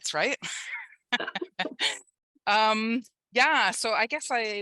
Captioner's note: laughter